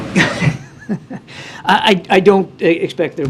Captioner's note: laughs